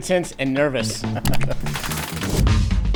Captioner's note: mouse click; funk music